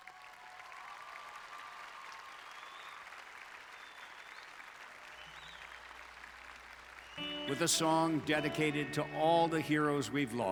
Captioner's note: applause